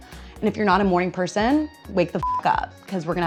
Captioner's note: beep